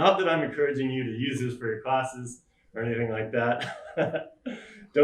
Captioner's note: laughs